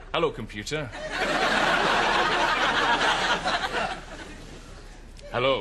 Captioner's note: audience laughter